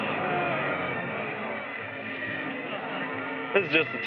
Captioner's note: crowd murmuring